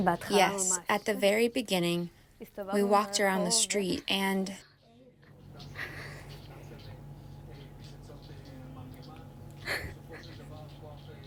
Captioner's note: through translator